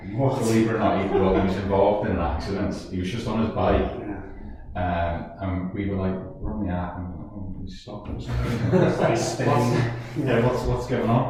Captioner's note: laughing